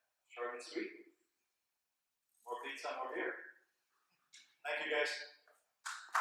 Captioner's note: audience clapping